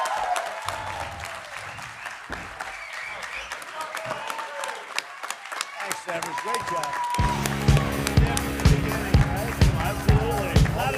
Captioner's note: applause